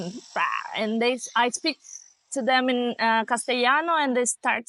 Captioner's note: Spanish